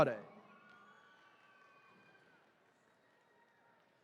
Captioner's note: attendees cheering